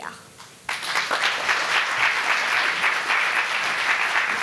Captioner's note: audience applauding